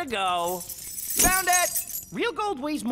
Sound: keys clanking

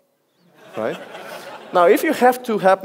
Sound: audience laughs

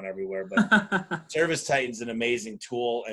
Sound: laughs

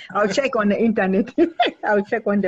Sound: laughs

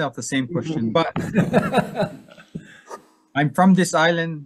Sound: laughing

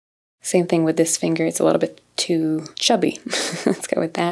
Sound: chuckles

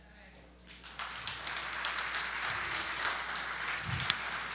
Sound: applause

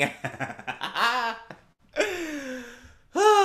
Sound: JAZZ laughs

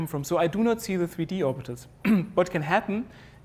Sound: cough

